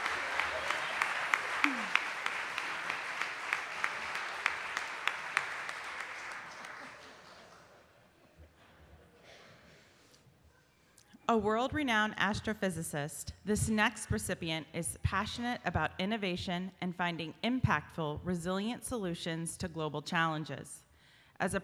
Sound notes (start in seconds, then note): 1.3 laughing